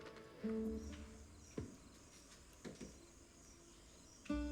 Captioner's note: footsteps